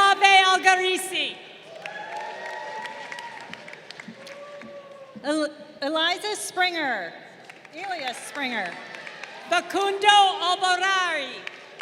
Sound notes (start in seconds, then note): 1.5 crowd cheering; 7.6 crowd cheering